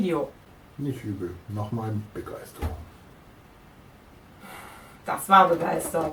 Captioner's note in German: Aus dem Off